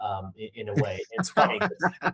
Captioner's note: laughing